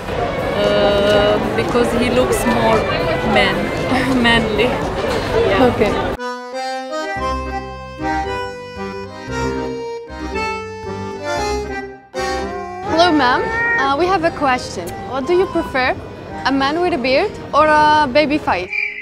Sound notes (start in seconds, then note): 12.2 cat meowing